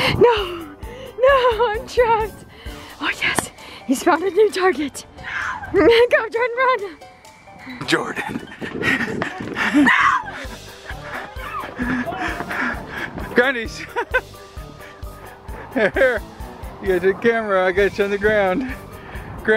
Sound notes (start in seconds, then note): 8.3 fast panting; 14.6 laughing